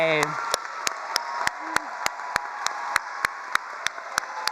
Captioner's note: all cheering and applauding